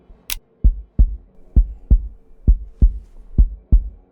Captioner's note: heartbeat